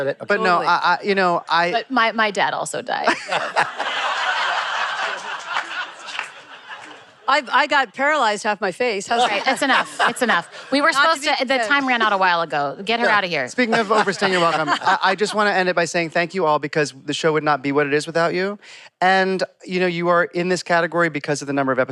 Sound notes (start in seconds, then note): 3.0 laughter